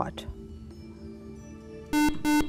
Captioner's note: buzzer